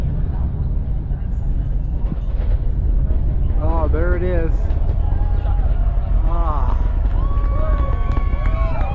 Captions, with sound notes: Oh there it is. [the rocket sound] ahh